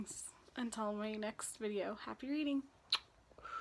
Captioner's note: blows kiss